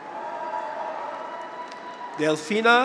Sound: audience applauds; graduates cheer

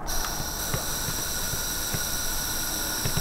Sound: hissing

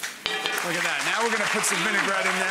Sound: audience applauding

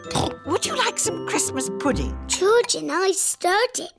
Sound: snorts

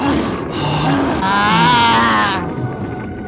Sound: grunting

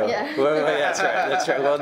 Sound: many chuckling

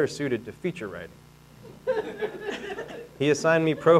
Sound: audience laughing

